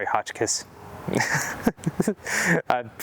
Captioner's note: laughing